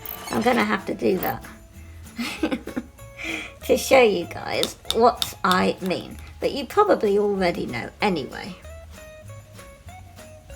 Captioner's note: laughs